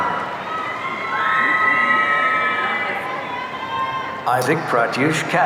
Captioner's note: audience cheering